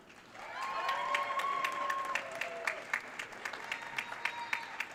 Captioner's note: audience cheering